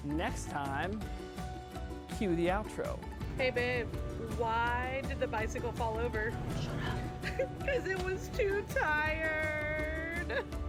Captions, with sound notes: next time, cue the outro. - Hey babe? Why did the bicycle fall over. - Shut up. (laughter) - 'cause it was too tired.